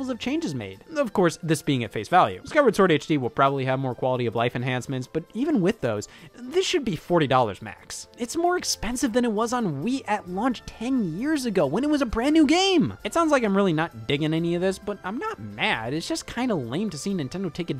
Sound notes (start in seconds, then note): none